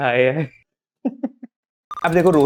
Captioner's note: laughing